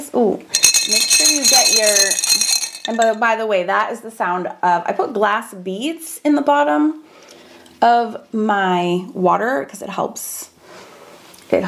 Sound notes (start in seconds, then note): 0.5 brushes clang